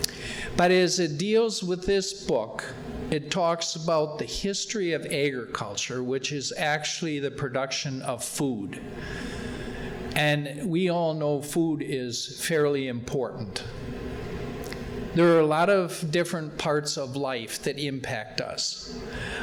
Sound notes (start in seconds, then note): none